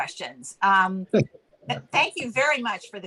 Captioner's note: laughs lightly